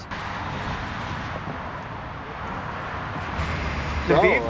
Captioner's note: traffic noise